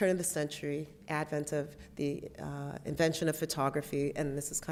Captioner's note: none